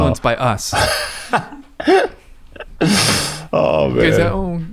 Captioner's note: laughing